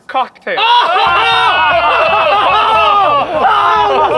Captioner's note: group laughing